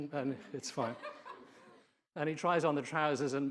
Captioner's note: audience laughing